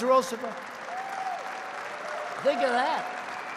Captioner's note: applause